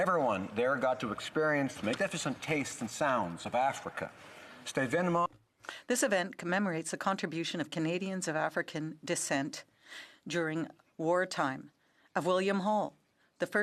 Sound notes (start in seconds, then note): 8.6 speaking French